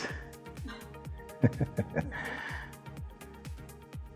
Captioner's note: chuckle